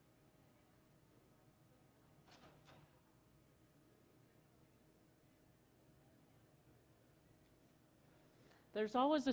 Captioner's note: silence